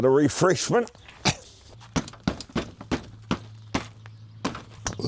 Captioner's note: door opens